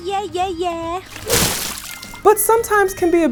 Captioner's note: water splashes